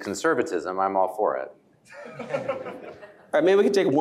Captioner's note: laughter